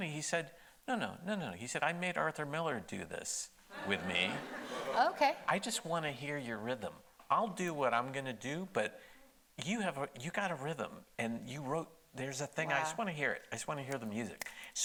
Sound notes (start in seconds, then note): 3.7 audience laughing